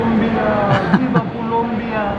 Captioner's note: laughs